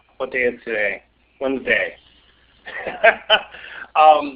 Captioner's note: laughing